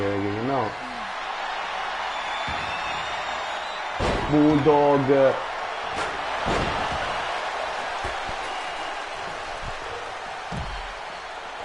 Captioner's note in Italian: Applauso